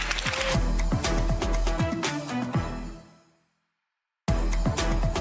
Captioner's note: crowd applauding; dramatic music